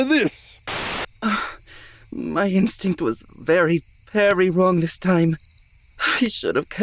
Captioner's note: sighs